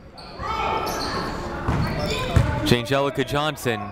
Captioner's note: people shouting in the crowd